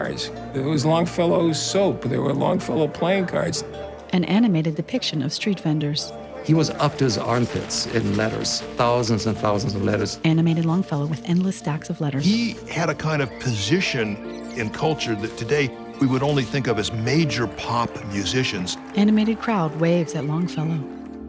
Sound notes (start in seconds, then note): 3.7 crowd talking; 19.0 crowd cheers